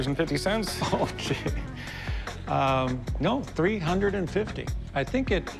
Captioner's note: laughs